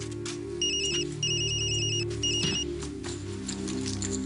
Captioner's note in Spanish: Suena el teléfono